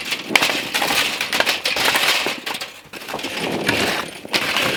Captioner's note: scraping